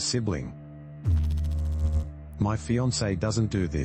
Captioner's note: electrical noise